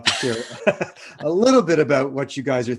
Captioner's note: laughing